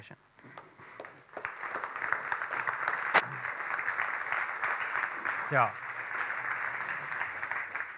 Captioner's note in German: Applaus